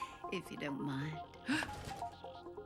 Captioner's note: gasps